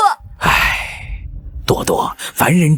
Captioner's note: sigh